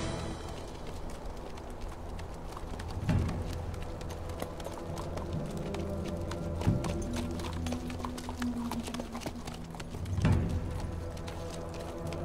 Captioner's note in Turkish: Fon müziği; Nal sesleri